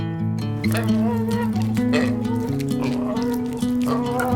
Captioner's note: pig squealing